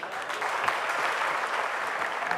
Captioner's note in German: Applaus